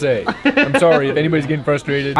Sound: laughs

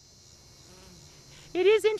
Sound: bees buzzing

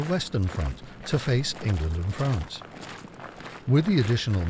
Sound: boots stomping

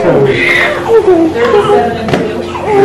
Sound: baby cries

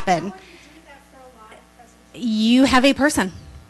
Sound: voiceover

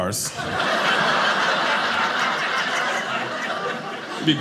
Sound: audience laughing

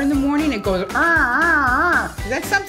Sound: grunting

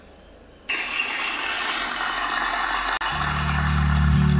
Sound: thanks giving clapping

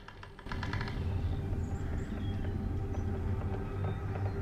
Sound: creaking

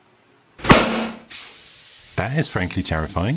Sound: loud pop of air

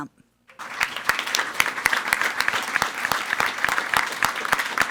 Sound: everyone applauding

